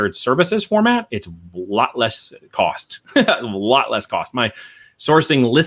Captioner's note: chuckles